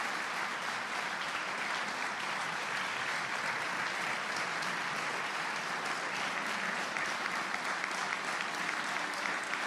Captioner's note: applause